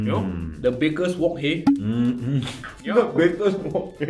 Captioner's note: LAughs